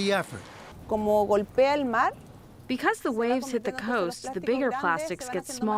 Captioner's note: through translator